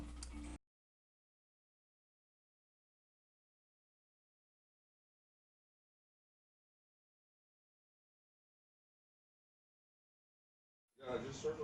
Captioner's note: silence